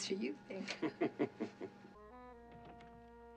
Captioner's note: kıkırdar